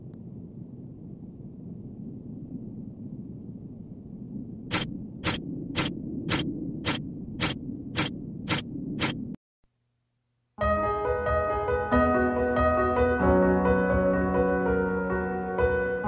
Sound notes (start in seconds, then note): 4.7 shutter Sounds